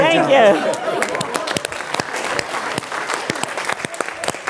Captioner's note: applause